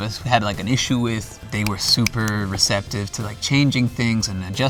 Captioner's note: snaps